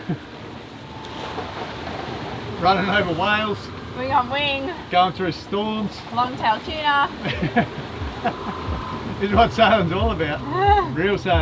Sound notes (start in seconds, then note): 0.0 laughs; 7.2 laughs